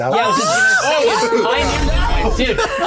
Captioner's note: players shouting